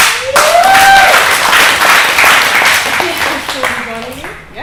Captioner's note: cheering and clapping